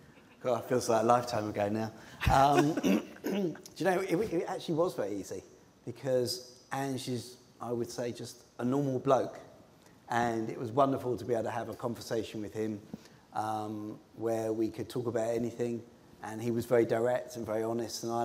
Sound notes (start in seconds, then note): 2.2 laughter